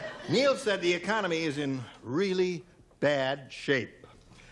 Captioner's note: laughs